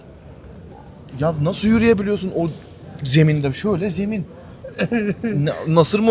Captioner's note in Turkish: kahkaha